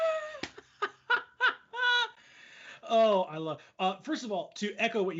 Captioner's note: laughs out loud